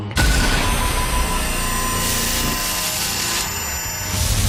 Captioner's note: electronic distortion